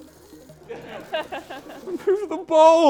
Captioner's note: laughter